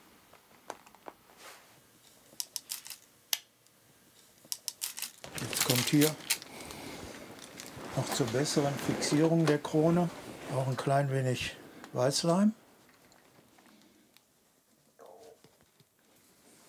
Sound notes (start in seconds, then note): 2.4 quiet clicking